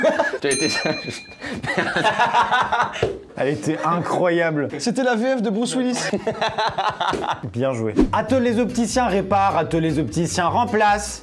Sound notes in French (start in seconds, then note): 0.0 rire; 1.3 en riant; 1.3 rire; 5.8 rire